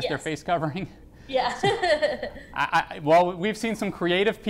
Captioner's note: laughs